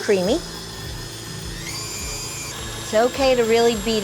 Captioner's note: mixer roars